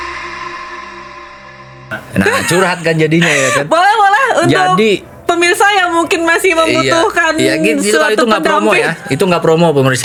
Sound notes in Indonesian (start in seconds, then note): 2.0 tertawa